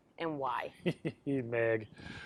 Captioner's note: chuckles